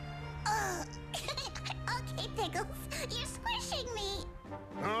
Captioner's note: giggles